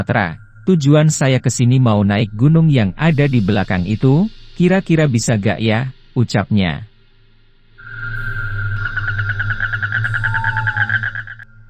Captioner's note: laughs